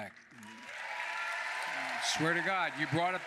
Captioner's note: applause